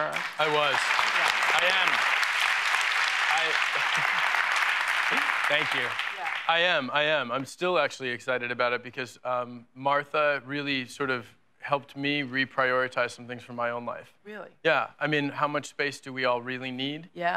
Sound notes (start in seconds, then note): 3.6 laughs